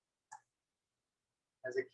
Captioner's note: silence